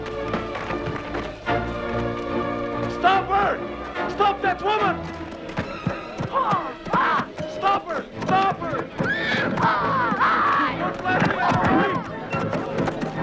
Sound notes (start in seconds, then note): 0.0 chair clatters; 0.2 dramatic music; 6.7 Hundra shouts; 9.8 Hundra shouting